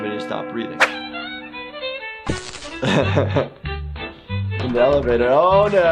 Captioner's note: joyful elevator music; laughing